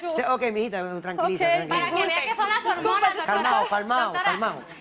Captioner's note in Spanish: risas; habla en portugués